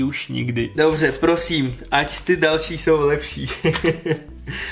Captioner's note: laughter